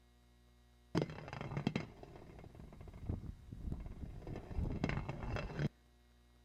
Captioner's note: rattling